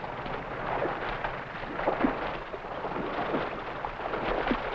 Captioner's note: none